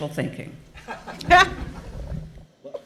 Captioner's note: laughs